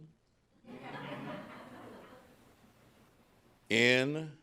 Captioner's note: audience laughing